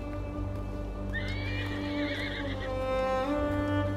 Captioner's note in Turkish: At kişneme sesi